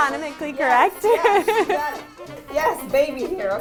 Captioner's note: laughs loudly